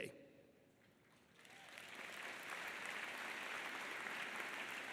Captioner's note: audience applauding